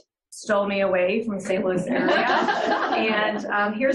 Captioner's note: group laughter